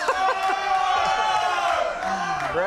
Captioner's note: crowd